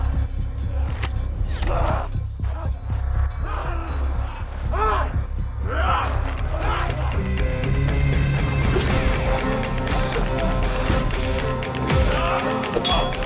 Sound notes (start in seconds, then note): 0.2 dramatic music; 5.6 fighters shouting; 10.3 dramatic music